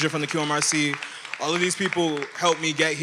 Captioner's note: everyone applauding